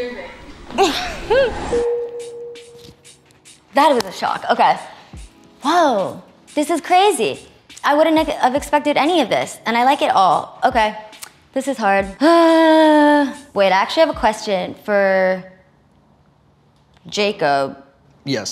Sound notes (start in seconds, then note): 0.7 laughing; 1.9 sign dings